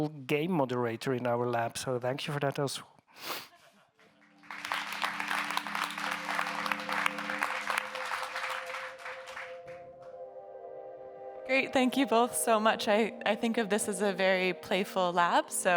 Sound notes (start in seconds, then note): 3.4 audience members laughing; 4.1 audience members applauding; 6.9 gentle electronic music